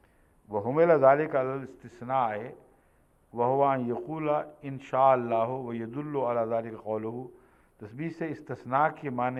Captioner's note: Arabic